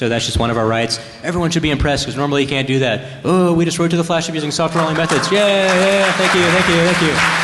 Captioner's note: applause